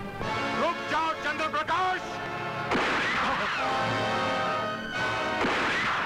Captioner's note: Gunshot